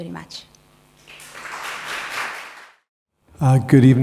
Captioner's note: crowd clapping